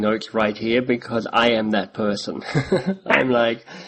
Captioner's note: chuckles